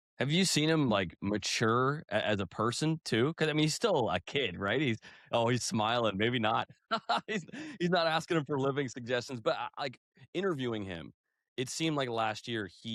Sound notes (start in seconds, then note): 6.9 laughter